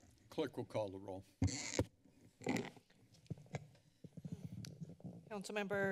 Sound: mic squeaks

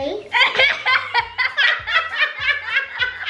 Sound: laughs

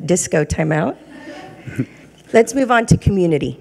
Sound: regents chuckling

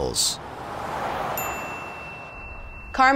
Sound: ding

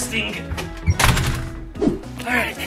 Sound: door slams

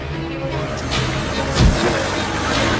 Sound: action music; man thuds; action music

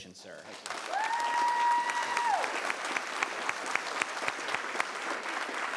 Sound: applause and cheering

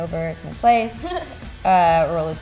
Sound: laughs

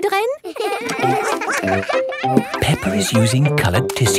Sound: all giggling

